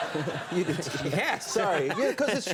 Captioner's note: audience laughing; laughs